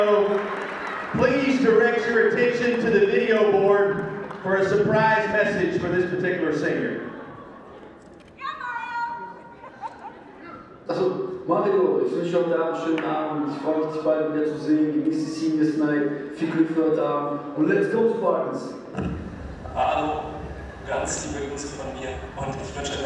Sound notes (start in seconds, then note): 10.7 cheering; 10.7 speaking in German